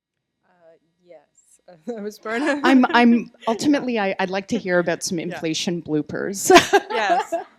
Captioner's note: laughter